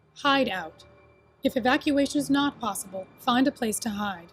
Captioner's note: none